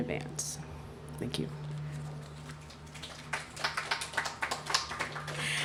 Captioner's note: applause